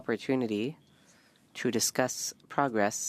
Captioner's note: speaking French